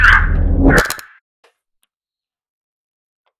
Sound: buttons clicked off

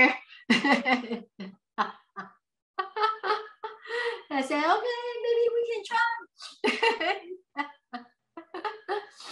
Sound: laughs

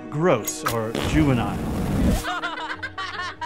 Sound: laughing

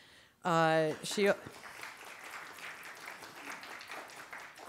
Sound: audience applauding

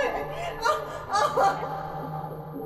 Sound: crying

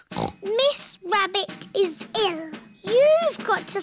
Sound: snorts

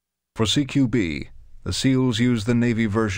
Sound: voiceover

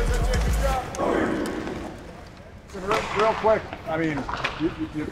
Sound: team chants

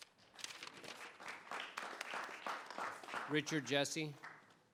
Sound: audience applauding

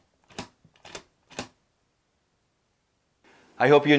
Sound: lock clicking

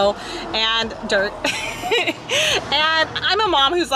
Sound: laughing

